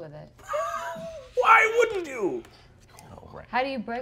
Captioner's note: laughing